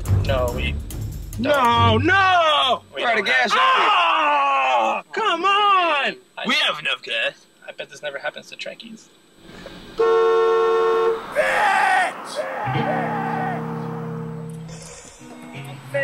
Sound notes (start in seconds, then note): 9.9 movie mobile honking in agony; 13.2 echo resounding